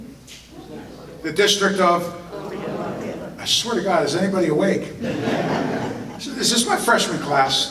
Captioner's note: audience laughter